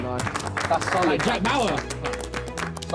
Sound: men clapping

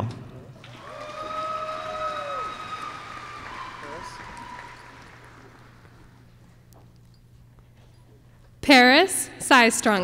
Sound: applause

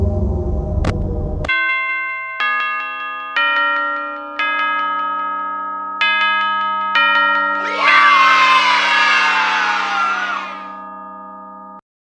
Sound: bells

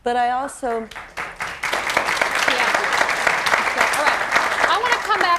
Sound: audience applause

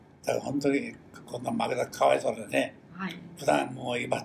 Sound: foreign language

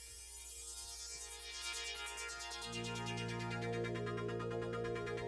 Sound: oscillating high pitched electronic sound

